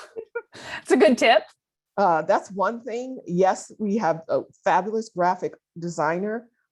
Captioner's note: laughter